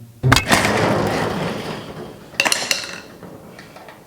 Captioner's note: lock clinking